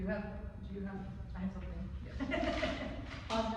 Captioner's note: laughs